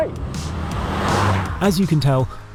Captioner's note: car roaring